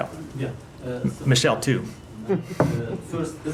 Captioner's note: laughter